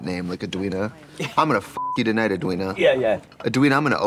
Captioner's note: beep